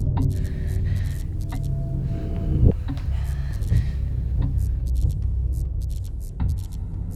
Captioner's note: Angela breathes nervously; eerie music